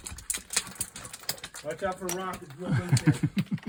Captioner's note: rocks clattering; laughing